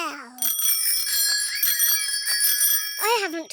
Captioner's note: bicycle bells ringing